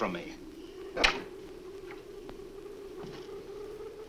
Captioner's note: door closes